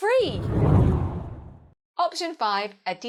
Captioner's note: hard whooshing